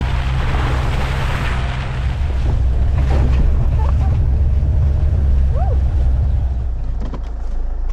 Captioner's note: rally driving